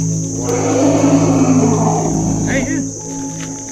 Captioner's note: elephant trumpets